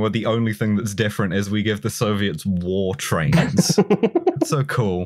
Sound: laughs

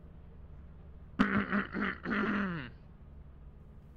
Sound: clears throat again

